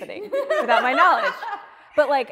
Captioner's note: all laughing